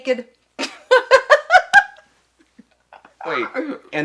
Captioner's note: laughs